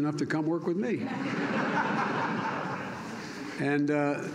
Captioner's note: laughter